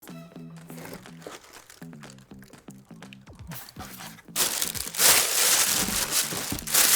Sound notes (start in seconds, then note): 0.0 lively music; 0.0 package rustling